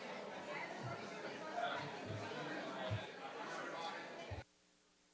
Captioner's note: participants chatter